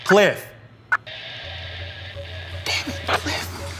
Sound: walkie crackling

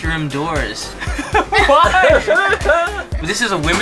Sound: laughter

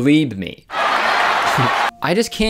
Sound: crowd Laughing Sound effect

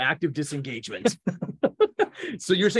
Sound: laughing

